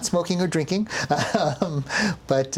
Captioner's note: laughing